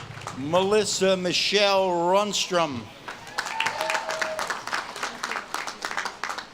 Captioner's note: audience claps and cheers